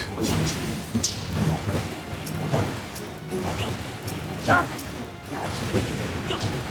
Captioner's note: gunshots